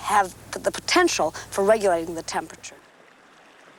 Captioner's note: speaks Nuu-chah-nulth